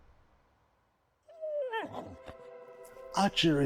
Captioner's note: Archie whimpering